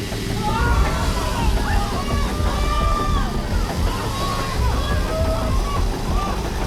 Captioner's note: chainsaw whirs; crowd shouts